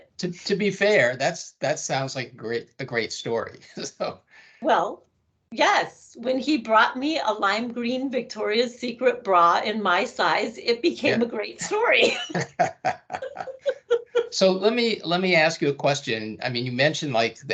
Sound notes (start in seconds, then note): 3.9 laughing; 12.1 laughing